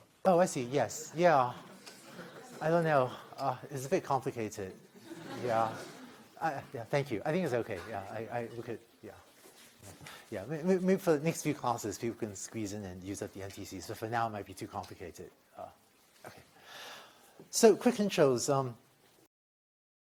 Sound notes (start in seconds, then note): 1.8 laughter; 4.8 laughter